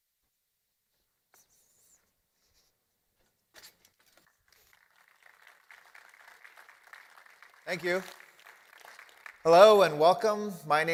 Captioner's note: applause